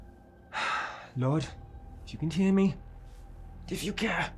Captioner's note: sighs